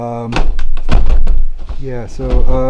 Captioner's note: boxes clatter